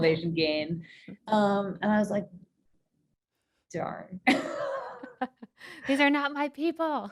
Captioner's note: both laughing